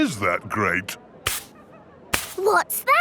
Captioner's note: brushing